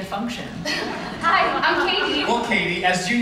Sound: giggles

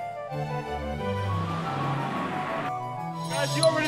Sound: classical music; traffic whirs

